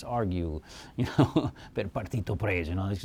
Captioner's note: speaks Italian